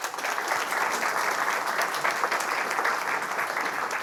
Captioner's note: audience applauding